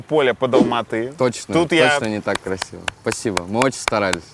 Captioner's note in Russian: хлопает